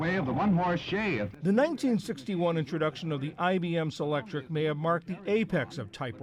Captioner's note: voice-over